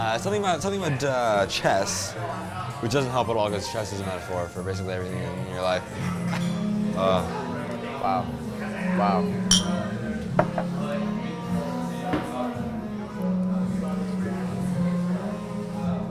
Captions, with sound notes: Something about, something about chess, which doesn't help at all, cause chess is a metaphor for basically everything in your life. Wow. - Wow. Wow. (glasses clinking)